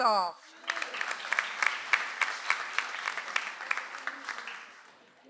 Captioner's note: audience applauds